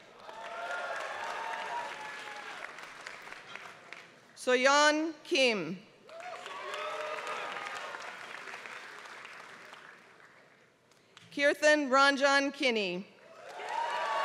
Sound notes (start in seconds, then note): 0.0 applause; 6.0 applause; 13.3 applause